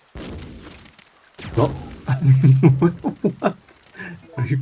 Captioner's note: laughing